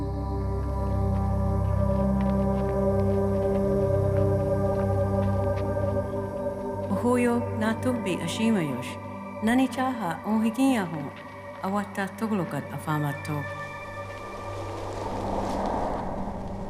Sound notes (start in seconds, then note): 6.9 woman speaking Choctaw; 13.5 breeze blowing